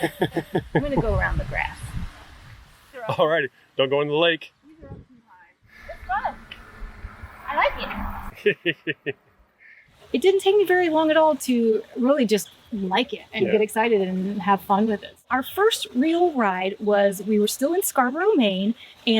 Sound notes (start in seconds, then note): 0.0 laughing; 8.3 laughing